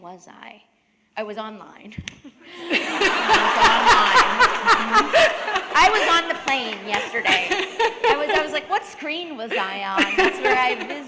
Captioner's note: laughter